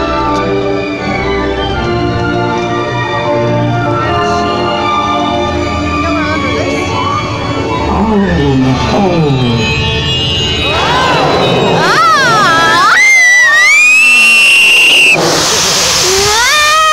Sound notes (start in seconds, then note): 12.5 screaming very very very loudly